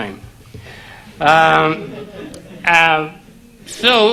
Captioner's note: audience laugh